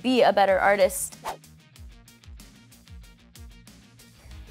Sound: whooshing

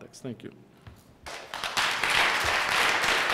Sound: applause

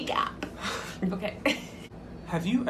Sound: laughter

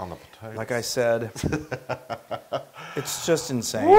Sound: laugh

